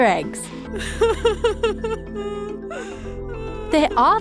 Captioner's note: cries